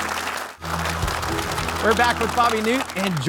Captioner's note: audience clapping; upbeat music; audience clapping; upbeat music